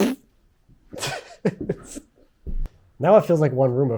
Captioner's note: speaker laughing